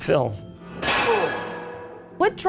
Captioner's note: Dracula groans